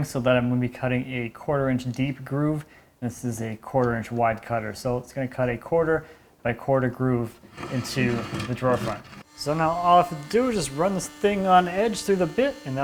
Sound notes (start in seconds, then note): 9.3 slot-cutter quietly buzzing